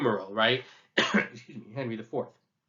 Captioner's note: coughs